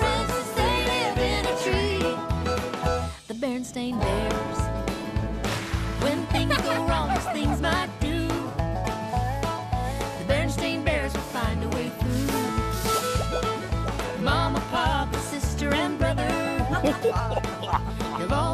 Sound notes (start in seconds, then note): 6.1 giggling; 16.6 both Chuckling